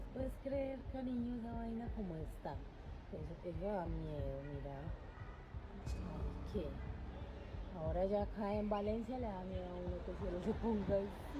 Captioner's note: people Talking In Foreign Language; speaking In Foreign Language